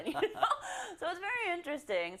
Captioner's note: laugh